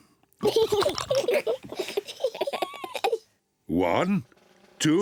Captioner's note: both giggle